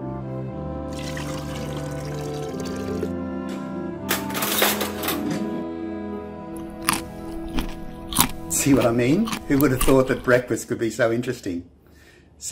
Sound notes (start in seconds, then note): 0.9 pouring milk; 4.2 metal clanking; 6.5 chewing